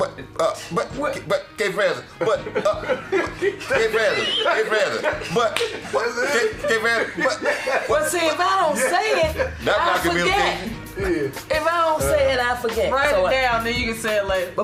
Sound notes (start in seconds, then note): 3.1 laughing